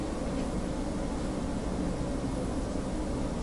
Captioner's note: none